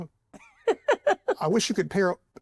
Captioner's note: laughs